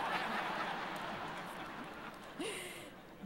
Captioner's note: laughter